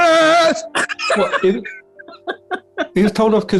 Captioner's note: laughing